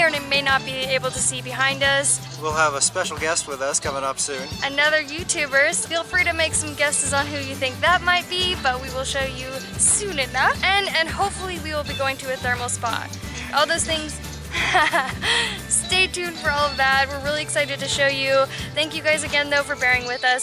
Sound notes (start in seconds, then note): 14.5 laughter